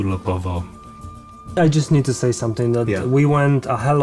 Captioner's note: in English